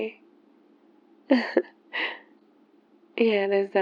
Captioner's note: laughs